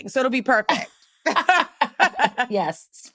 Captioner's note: chuckling